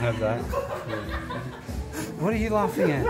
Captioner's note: crowd laughing